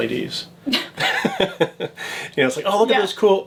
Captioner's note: laughing